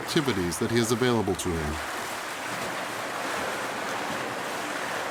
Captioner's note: water splashing